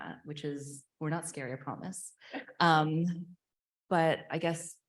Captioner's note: laughing